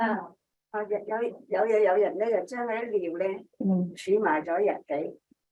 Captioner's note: speaking chinese